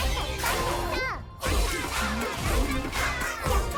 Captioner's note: chanting continues